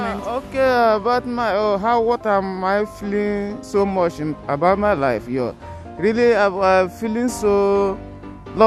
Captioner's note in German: Er spricht auf Englisch über seine Gefühle